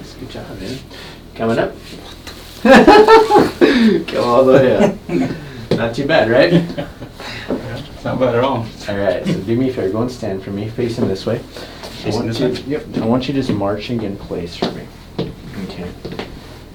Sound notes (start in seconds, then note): 2.6 laughs